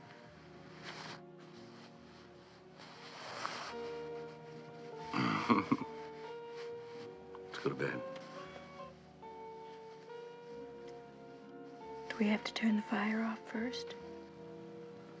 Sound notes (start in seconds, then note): 5.2 kıkırdama